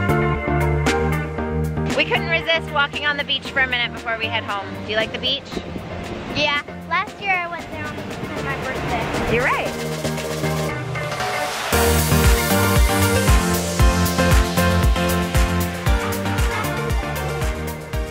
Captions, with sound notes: - We couldn't resist walking on the beach for a minute before we head home. Do you like the beach? - Yeah. Last year, I was there on my birthday. (ocean sounds) - You're right. (upbeat music)